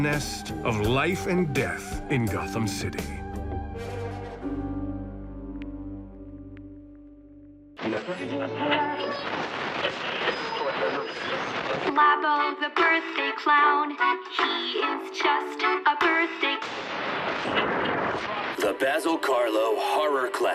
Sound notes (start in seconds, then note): 7.8 radio static; 16.6 radio static